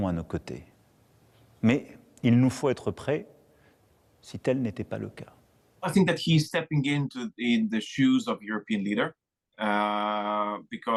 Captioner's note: speaking French